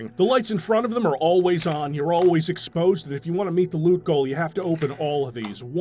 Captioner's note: none